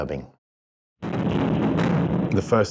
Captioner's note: missile booms